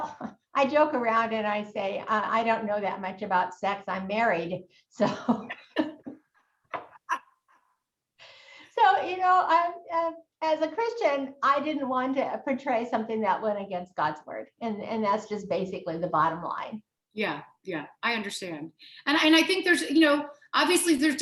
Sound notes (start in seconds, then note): 5.0 both laughing